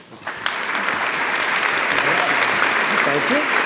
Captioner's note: applause